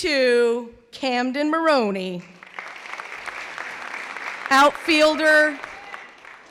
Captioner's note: clapping